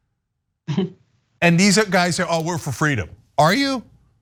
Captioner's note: laugh